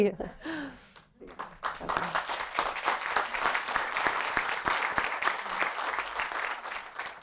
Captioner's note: laughter; applause